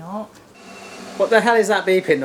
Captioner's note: alarm beeping